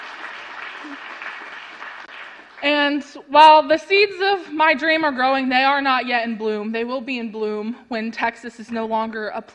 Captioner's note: applause